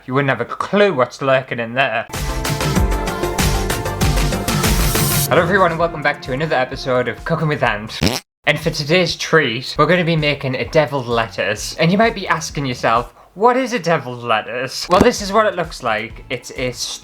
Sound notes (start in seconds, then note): 2.2 intro Music; 8.0 fart